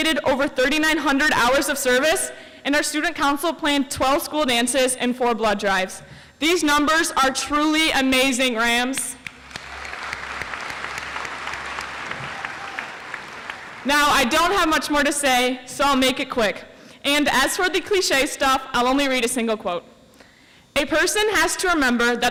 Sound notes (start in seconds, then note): 9.2 audience applauds